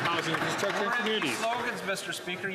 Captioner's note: some Applause